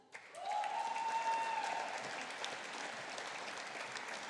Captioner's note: audience applauding